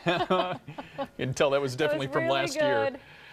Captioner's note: laughing; laughs